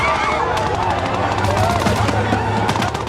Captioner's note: machine gunshots; people scream